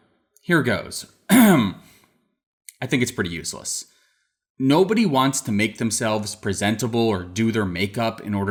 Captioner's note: ahem